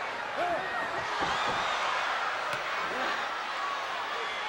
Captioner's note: crowd gasps